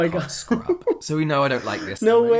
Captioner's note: laughs